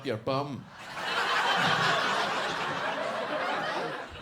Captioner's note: audience laughs